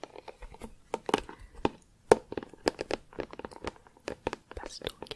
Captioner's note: tapping on plastic